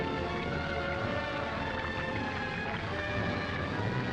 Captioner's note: liquid gurgling